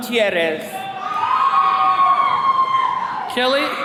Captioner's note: attendees cheering